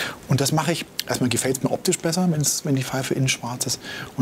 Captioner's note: none